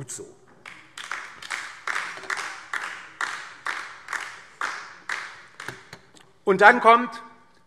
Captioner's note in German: Beifall DIE LINKE